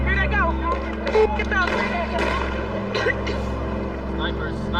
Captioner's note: protesters chanting; gunshots firing